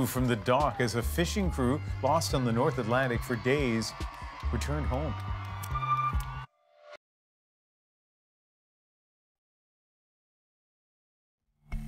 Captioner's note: cheers and Applause